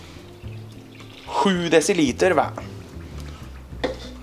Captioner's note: in Swedish